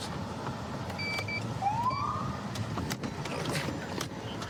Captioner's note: siren chirps